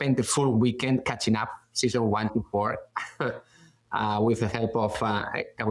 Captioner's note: chuckles